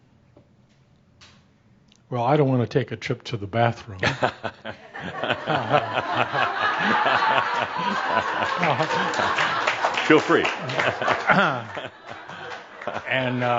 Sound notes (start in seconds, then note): 4.0 laughter; 10.5 Adamus is chuckling